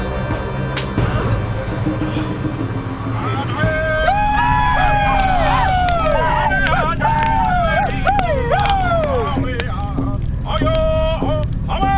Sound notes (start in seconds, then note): 4.9 indian vocalizing in foreign language